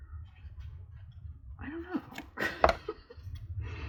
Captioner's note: laughs